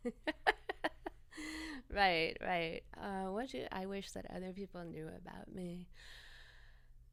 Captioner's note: laughter